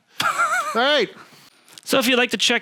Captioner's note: laughs